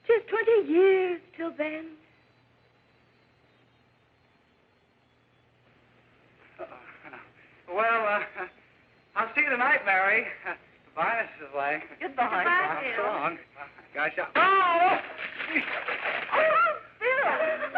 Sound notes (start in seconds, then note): 14.4 gasping; 14.4 yelping